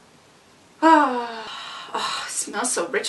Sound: delighted sighs

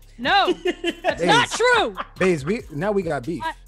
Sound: laugh

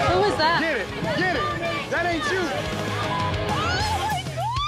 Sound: shouting; screaming

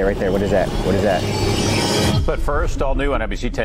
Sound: electronic scraping

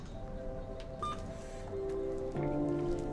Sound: beeping; soft music

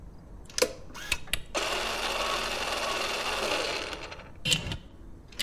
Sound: recorder rewinds

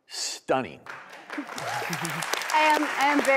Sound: audience applauding

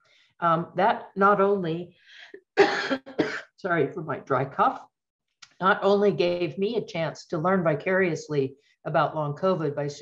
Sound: sorry for my dry cough

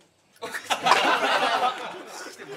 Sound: laughs; laughter

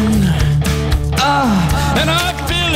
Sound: exaggerated Moan

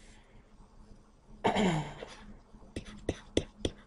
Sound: clears throat

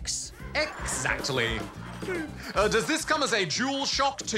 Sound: audience chuckle

